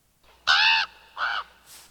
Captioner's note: raven caw